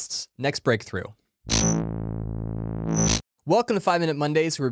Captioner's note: electronic buzzing